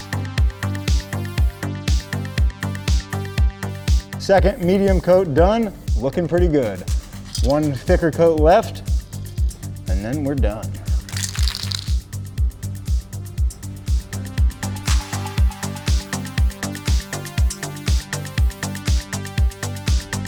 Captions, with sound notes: (upbeat music) Second medium coat done, looking pretty good. One thicker coat left and then we're done. (paint can rattling) (upbeat music)